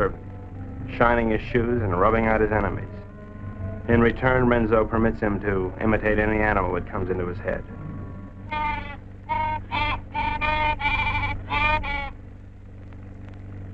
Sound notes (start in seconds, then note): 9.2 Pete squawking